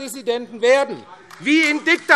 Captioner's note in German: Beifall AfD